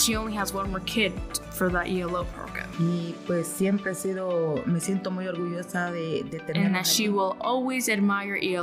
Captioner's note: speaking spanish